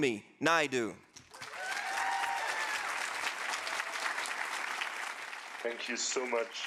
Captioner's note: audience applauding; audience cheering